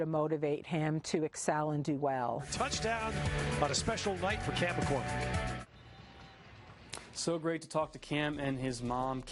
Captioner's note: football broadcast